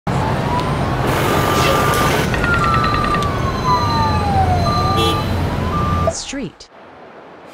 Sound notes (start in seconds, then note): 0.0 street noises